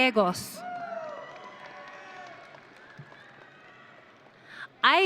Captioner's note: audience cheering